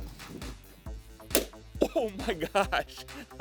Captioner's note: balloon pops